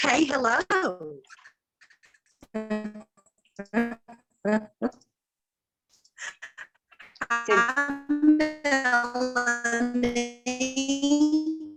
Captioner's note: audio disturbance from unstable connection